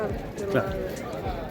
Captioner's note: laughs